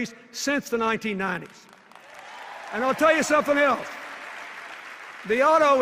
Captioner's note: cheers and applause